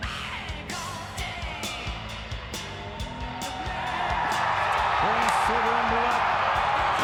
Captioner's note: crowd cheering